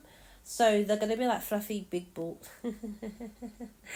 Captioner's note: chuckles